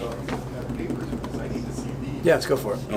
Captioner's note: taps desk loudly